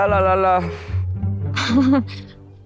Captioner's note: chuckles